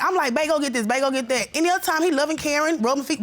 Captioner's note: none